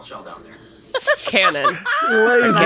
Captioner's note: Kaitlin laughs